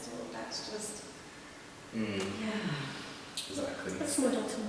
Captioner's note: sighs